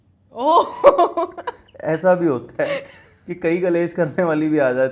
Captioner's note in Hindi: हंसी